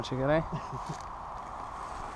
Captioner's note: laughing